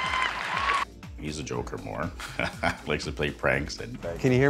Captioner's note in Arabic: يضحك